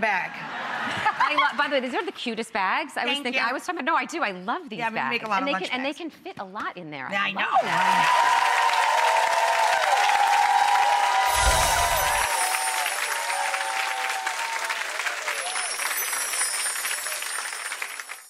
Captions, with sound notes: (audience laughing) By the way, isn't that the cutest bag? Thank you. No, I do, I love these bags. Yeah, we make a lot of lunch bags. And they can fit a lot in there. I know! (audience cheering) (chimes)